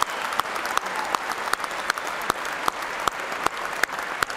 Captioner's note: cheers and applause